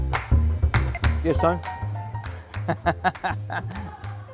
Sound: talks on the phone and laughs

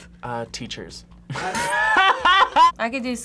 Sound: both laugh

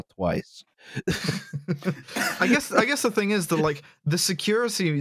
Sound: laughter

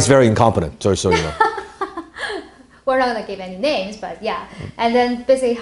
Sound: laughs

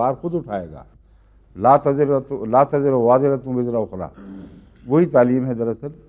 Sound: Arabic

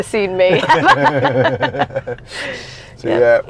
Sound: people laughing

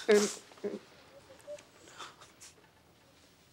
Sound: Rachel crying

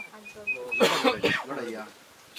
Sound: coughing

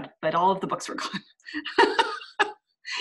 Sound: laughs

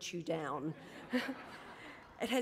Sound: laughter

